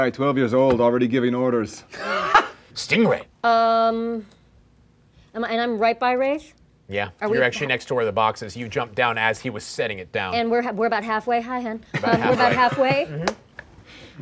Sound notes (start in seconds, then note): 1.7 laughing; 11.9 laughing